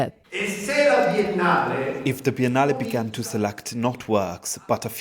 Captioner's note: speaking Italian